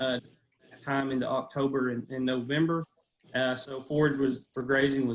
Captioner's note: audio is choppy